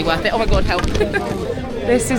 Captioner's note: giggles